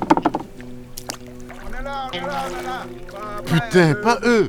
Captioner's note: distant cries